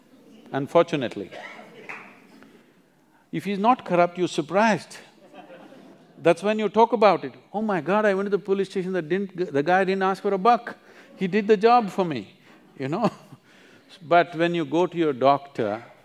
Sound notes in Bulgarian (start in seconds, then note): 13.3 смее се